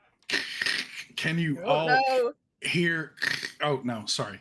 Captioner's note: imitates radio static